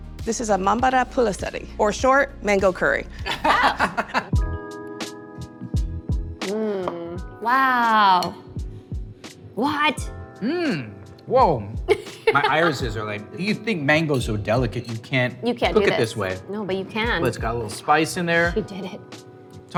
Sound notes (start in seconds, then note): 3.2 laughs; 4.7 chill music